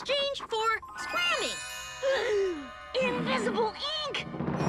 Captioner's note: gasps